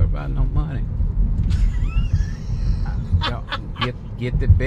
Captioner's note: laughs